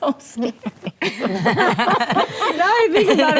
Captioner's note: ladies laughing